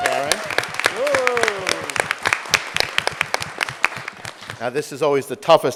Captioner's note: audience applauding